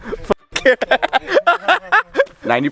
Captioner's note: laughs